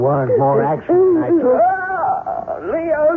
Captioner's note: muttering